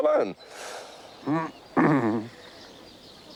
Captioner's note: clears throat